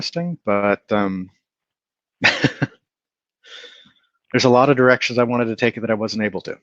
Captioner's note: laughs